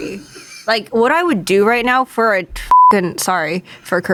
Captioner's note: beep